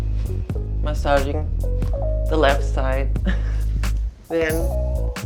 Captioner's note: chuckling